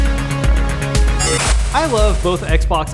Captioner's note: buzzing